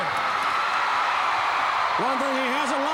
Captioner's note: crowd cheering